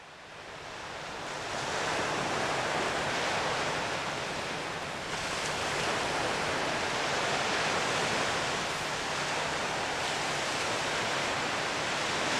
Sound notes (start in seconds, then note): 0.6 sound of waves coming ashore